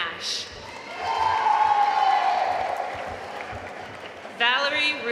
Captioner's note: audience cheering and applauding